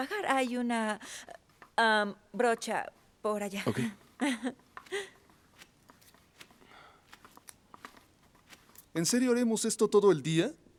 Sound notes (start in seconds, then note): 4.2 Esperanza ríe